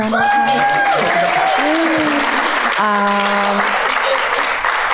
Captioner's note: audience cheering